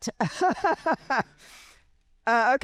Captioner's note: laughing